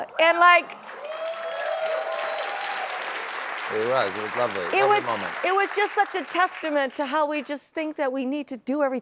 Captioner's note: applause